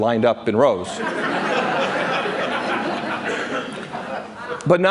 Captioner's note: laughter